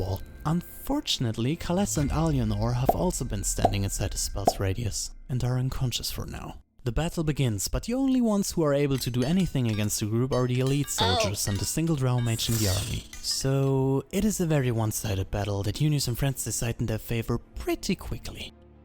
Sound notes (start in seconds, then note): none